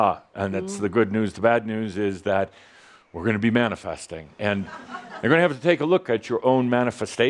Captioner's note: some chuckles and chuckles